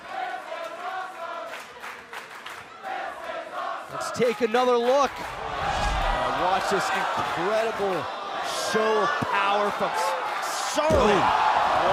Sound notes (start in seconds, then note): 1.5 fans chanting